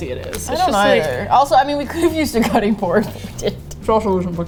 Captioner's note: laughing